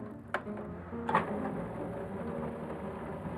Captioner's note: food processor whirring